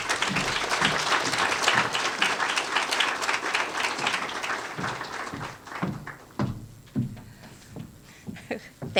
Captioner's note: applause